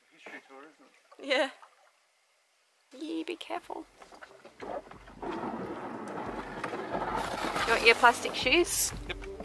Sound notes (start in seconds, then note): 5.7 boat scrapping on rocks